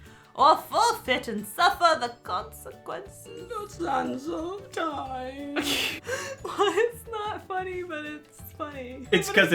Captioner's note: laughing